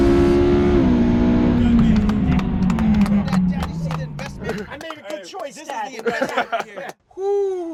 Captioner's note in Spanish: aplausos